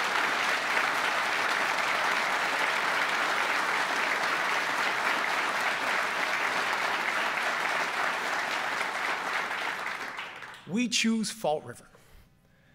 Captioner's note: applause